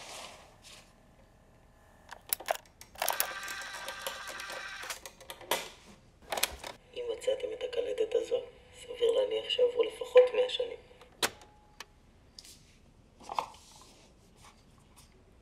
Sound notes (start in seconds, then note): 2.8 recorder stops; 2.9 tape rewinding; 11.0 recorder stops